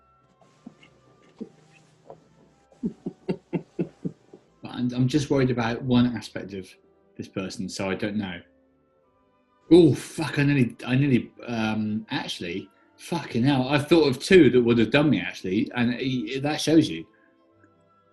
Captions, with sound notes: [GIGGLING] I'm just worried about one aspect of this person, so I don't know. Oh, fuck; I nearly... I nearly, um... actually... Fucking hell, I've thought of two that would have done me, actually, and... that shows you.